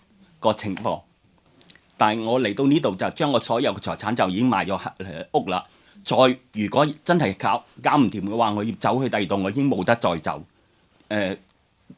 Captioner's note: Cantonese